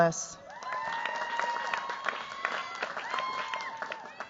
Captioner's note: cheers, applause